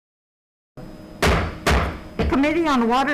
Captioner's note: gavel banging